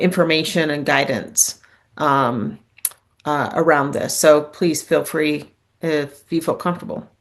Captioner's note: lip smack